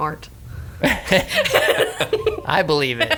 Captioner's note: group laughing